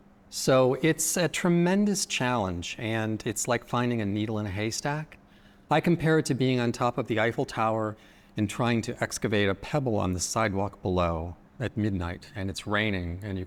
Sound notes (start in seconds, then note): none